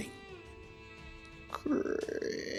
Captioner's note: creaaaak